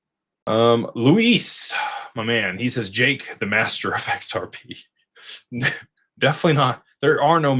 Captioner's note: snorts